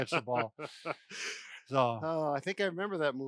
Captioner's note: laughter